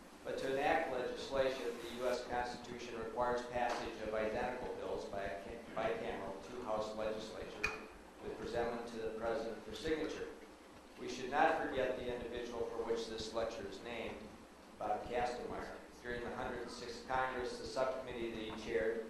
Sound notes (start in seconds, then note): none